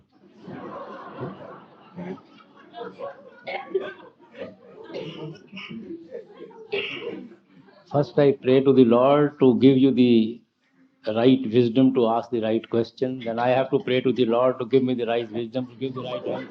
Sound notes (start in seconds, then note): 5.8 laughter